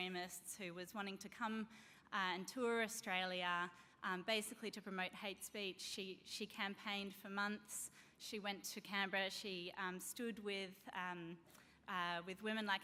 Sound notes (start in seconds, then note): none